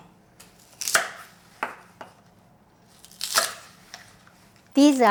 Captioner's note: knife slicing